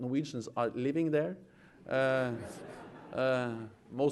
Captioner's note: laughter